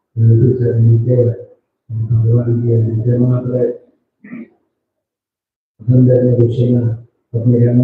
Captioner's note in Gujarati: ગળું સાફ કરે છે